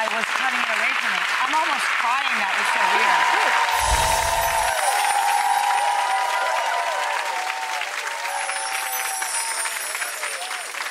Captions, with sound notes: cutting away from me. (audience claps) I'm almost crying that was so good. (audience cheers)